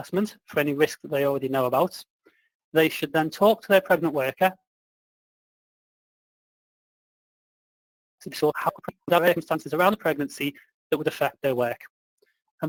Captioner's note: audio distortion